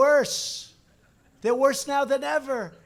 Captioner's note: laughter